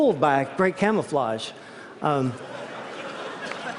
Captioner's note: laughter